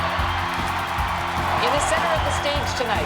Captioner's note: cheering